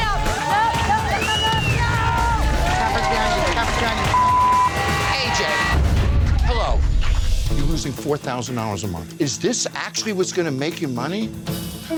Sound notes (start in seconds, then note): 4.1 beep